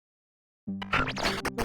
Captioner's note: audio glitch SFX